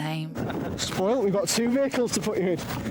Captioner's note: speaker chuckling